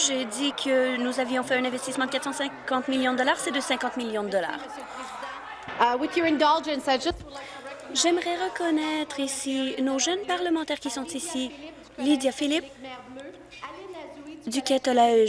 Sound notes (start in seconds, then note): 7.4 speaking in French